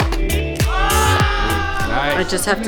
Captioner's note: cheering